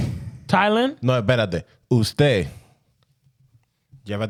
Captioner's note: speaking In Foreign Language